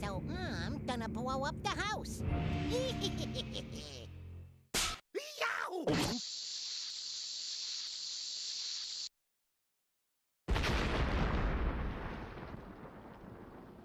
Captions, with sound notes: SO I'M GONNA BLOW UP THE HOUSE. [laughing maliciously] [snapping] YOW!